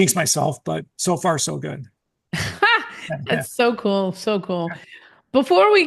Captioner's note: laughs